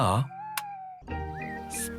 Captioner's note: car lights click off